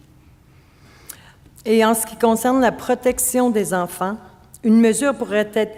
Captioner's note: speaking French